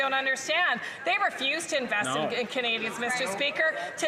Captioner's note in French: voix de l'interprète